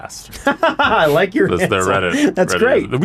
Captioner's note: laughing